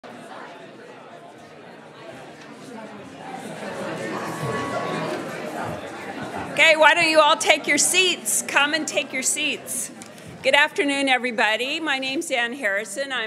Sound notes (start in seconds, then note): 0.4 audience murmuring